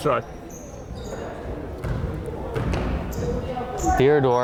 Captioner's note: crowd chattering